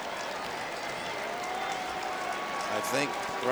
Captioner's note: crowd cheering and applauding